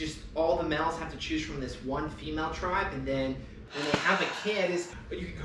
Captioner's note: heavy sigh